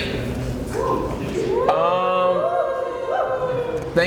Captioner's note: crowd cheers